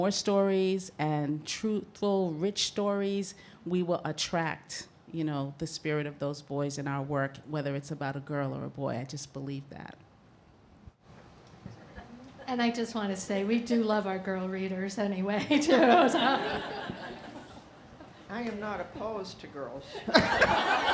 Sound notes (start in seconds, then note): 15.5 laughing; 19.7 laughing